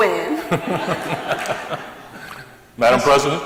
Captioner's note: laughter